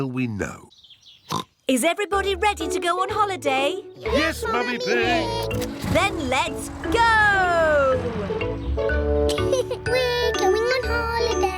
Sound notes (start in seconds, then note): 1.3 oinks; 9.2 laughs